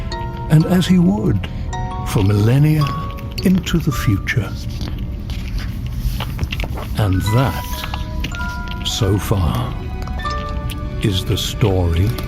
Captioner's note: turns page and closes book